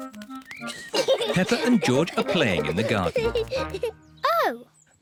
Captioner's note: giggling